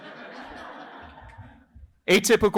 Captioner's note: laughter